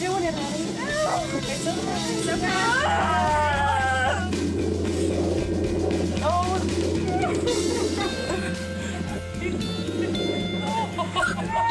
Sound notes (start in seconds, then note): 2.6 groaning; 4.5 upbeat music; 8.4 crying and laughter